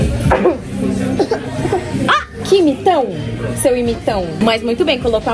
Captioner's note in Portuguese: tosse; imita tosse